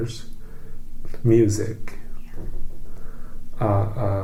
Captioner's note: whispers